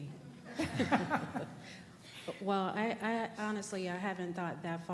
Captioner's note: laughter